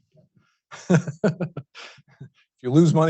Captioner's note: laughing